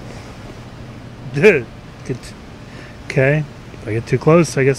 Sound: startled Noise

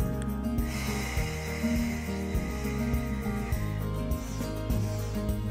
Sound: exhaling, sniffing

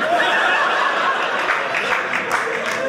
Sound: audience laughing

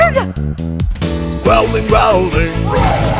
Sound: roar!

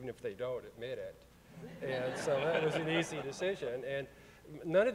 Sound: audience chuckling

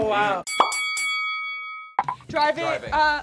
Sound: boxing bell rings

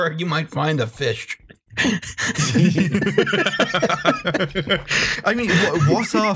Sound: laughter

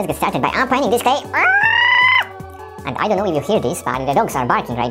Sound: screeching

